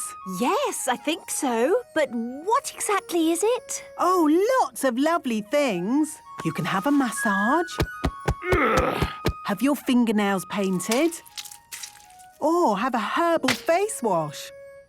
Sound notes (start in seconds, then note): 7.7 thumping; 8.2 moaning